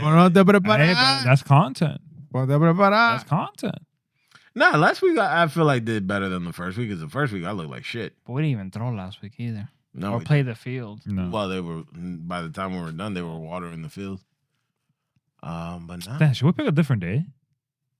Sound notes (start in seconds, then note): 2.9 speaking In Foreign Language